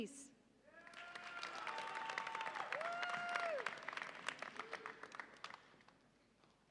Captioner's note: audience applauds and cheers